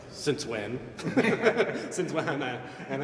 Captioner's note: laughter